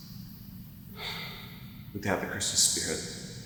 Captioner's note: sigh